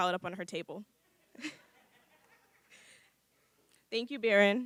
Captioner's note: laughter